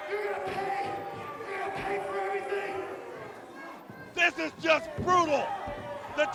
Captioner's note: bell ringing